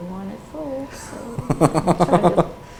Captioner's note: laughs